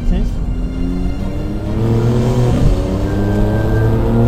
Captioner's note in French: Vrombissement du moteur